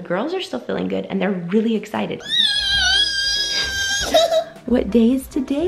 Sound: squealing

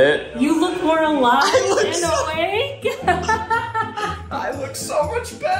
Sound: laughs

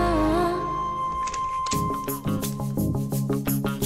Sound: door opens

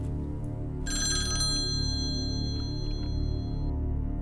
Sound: phone ringing

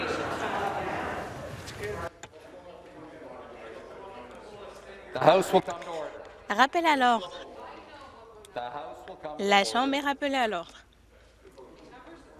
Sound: some Applause

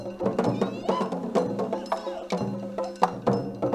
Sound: shouting

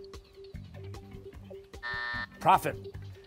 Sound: buzzer

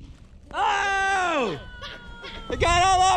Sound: yelling

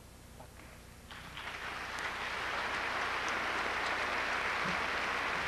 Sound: audience applauds

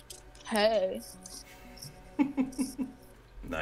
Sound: laughing

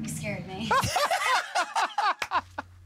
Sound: laughter

